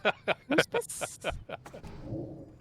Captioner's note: laughing